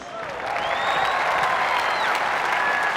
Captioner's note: cheers and applause